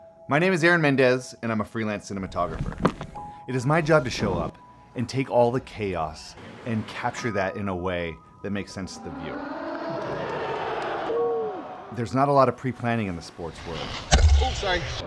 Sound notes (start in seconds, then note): 9.0 crowd cheers